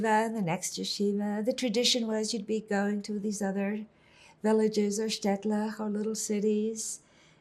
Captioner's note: hebrew